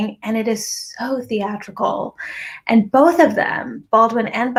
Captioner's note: none